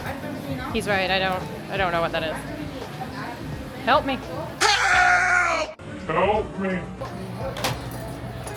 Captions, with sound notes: He's right. I don't I don't know what that is. Help me. Help. [screaming and groaning] Help me.